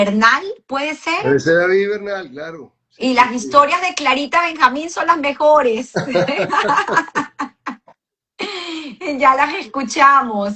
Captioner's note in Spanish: risas